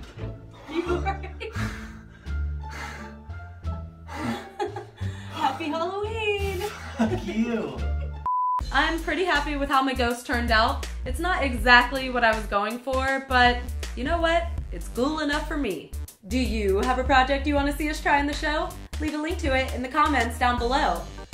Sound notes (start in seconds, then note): 2.8 panting; 4.1 giggles; 7.1 winded